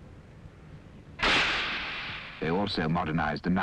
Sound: gunshots

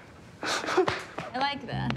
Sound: Rufus sobs

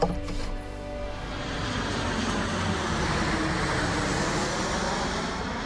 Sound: aircraft thrusters roaring

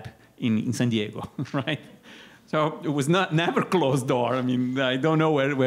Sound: laughter

